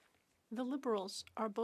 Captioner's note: speaking French